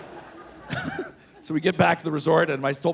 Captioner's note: audience laughing; laughing